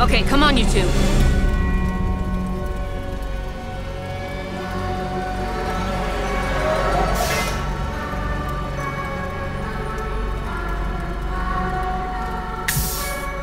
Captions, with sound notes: - Okay. Come on, you two. (sirens wailing) (suspenseful music)